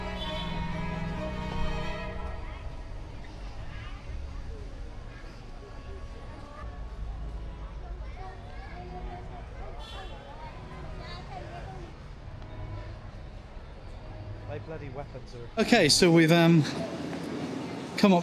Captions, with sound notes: (people chattering) Okay, so we've come